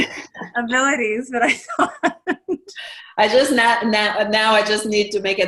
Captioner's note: laughing; drowns in laughter